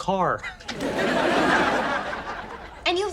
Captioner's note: audience laughs